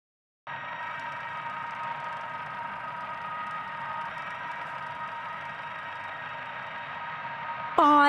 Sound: machine-like sound

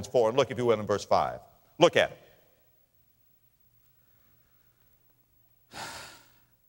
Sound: sigh

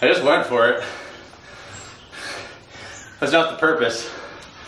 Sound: breathing heavily

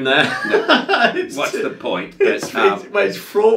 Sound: laughing

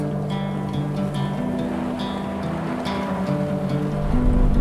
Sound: gravel crunching

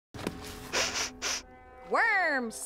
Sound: sniffing

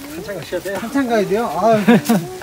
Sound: laughs

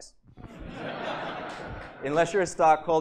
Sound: laughter

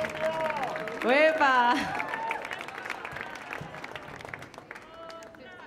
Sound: speaking in Spanish

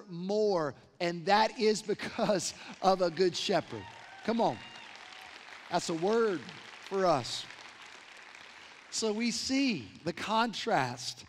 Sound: applause

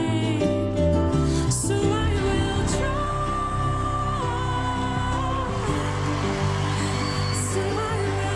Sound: audience cheers

